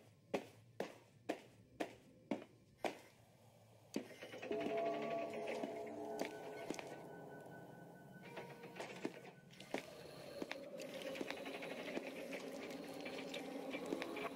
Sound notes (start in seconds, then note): 0.2 footsteps; 4.4 door Open; 6.3 door Close and Footsteps; 11.6 door Open